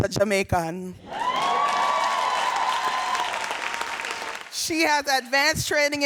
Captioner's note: audience cheering and applauding